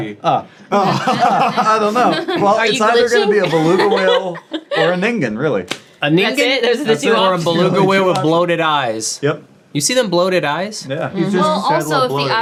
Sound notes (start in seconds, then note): 0.7 everyone laughing